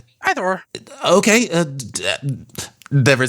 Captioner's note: stutters